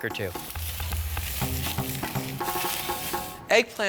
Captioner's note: grill sizzling